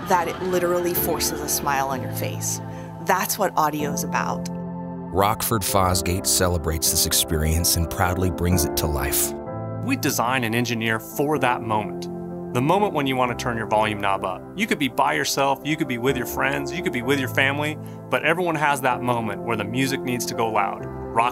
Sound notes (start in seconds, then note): 5.3 voiceover